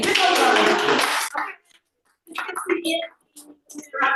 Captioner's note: applause